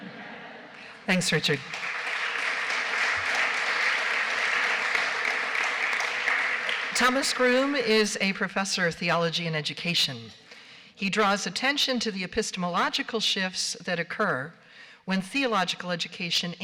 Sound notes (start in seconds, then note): 0.0 laughter; 5.9 applause